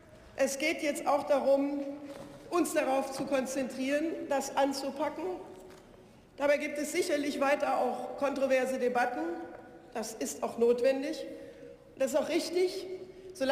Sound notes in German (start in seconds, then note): none